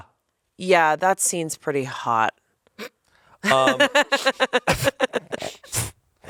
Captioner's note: laughs